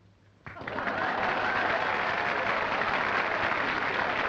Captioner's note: applause and cheering